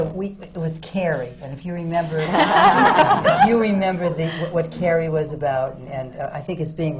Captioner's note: laughter